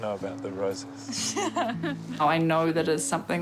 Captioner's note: laughs